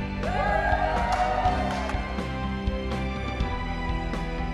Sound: crowd cheering

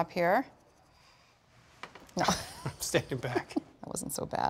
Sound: laughs

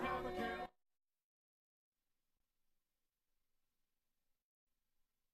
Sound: silence

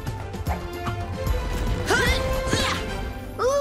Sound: grunting

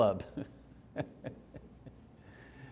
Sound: laughing

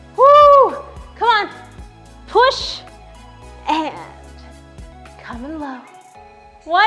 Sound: whooping

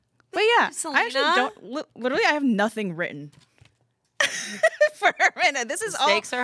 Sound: laughs

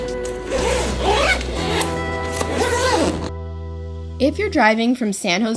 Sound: zippers zipping

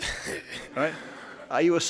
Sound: laughing

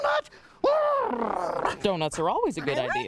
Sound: growls

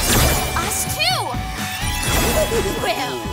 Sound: giggling

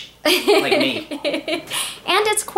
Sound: laughs

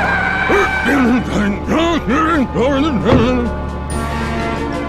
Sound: grumbling angrily

